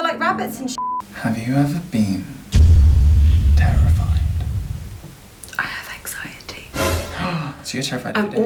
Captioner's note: gasp